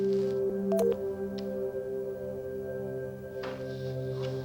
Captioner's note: button beeps